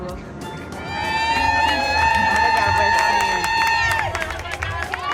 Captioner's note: cheers and applause